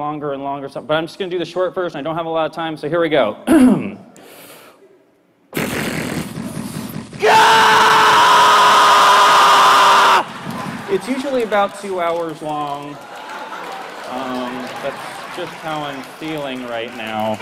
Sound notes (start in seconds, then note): 3.4 clears throat; 4.3 imitates drilling